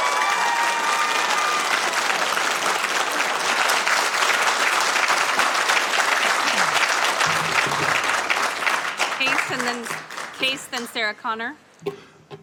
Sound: applause

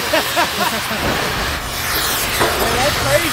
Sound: everyone laughing

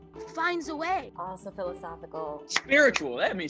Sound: claps

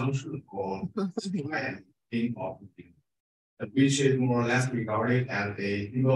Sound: speaking faintly

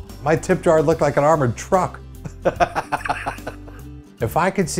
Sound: laughs

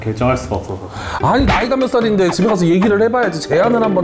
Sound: startled

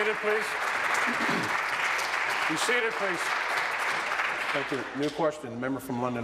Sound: applause

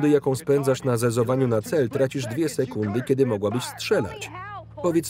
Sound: yelling

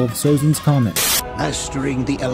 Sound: Static

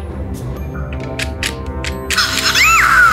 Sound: clicking

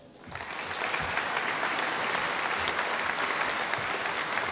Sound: audience applauding

